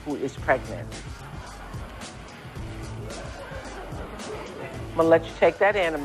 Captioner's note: audience reacts